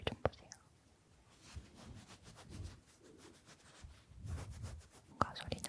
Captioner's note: sound of petting a cat